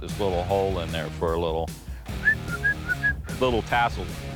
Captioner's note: whistles